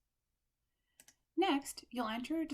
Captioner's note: click